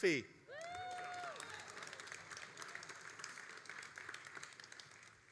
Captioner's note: all applauding and cheering